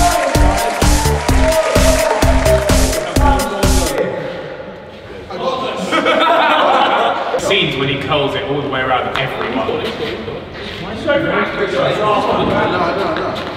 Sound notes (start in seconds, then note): 0.0 applause; 0.0 upbeat music; 7.0 group laughing